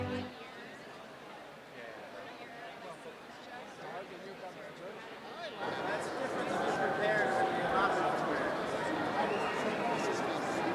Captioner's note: indistinct background chatter